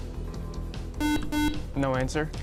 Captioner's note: buzzer